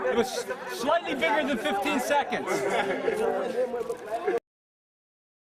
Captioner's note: laughter